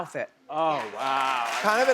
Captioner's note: crowd cheers